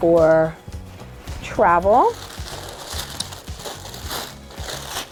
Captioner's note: paper crinkles